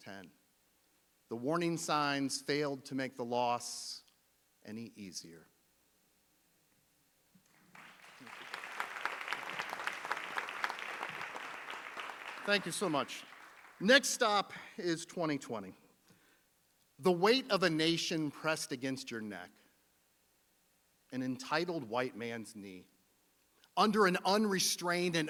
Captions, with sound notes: 10, the warning signs failed to make the loss any easier. (audience applauding) Thank you so much. Next stop is 2020. The weight of a nation pressed against your neck. An entitled white man's knee under an unrestrained